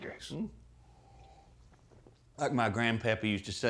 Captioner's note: slurping